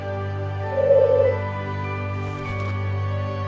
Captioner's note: owl hoots